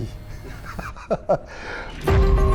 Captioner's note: laughs